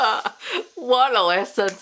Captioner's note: laughs